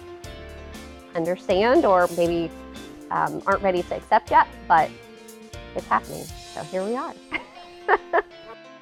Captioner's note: laughs